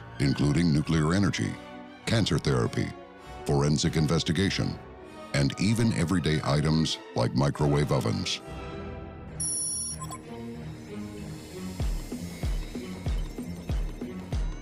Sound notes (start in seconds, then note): 9.4 digital beeping; 10.6 mysterious music